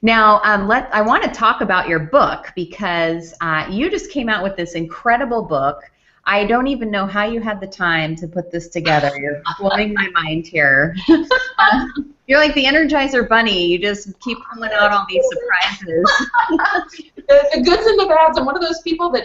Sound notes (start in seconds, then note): 11.0 laughs; 14.7 laughs